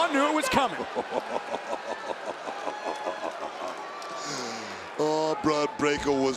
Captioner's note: laugh